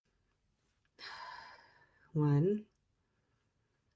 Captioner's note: breathes